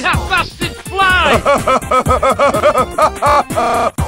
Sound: Russell Laughs happily

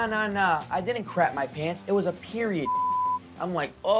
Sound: beep

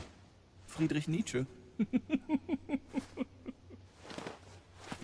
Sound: chuckle

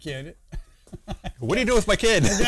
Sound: laughter

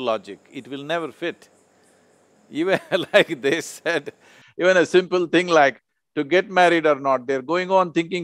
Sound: laughs

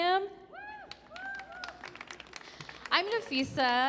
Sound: audience applauds

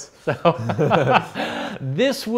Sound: laughs

